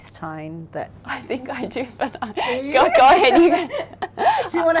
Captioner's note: laughs